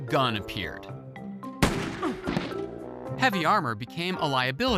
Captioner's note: gunshot